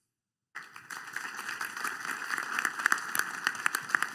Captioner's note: applause